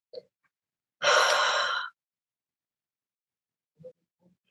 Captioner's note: breathing